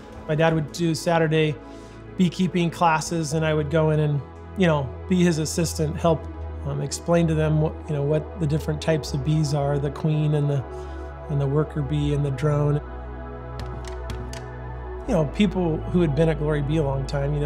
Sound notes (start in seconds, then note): 13.6 scratching